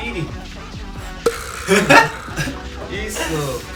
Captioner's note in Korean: 웃음